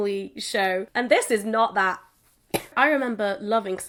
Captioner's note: cough